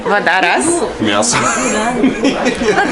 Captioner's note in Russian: смех невегетарианца